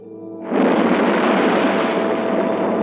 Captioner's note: waves crashing